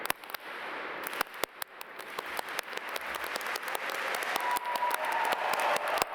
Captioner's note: audience applaud and cheer